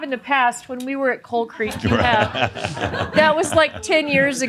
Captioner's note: laughter